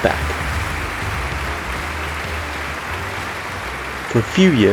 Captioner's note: applause